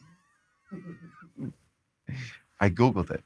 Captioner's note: group laughs